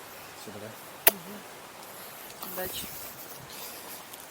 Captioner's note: kiss